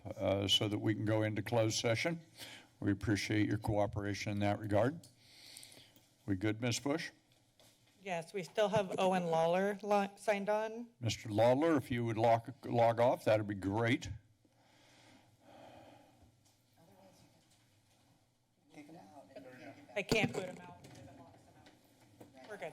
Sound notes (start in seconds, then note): 5.2 breathes in; 14.3 silence; 18.8 background chatter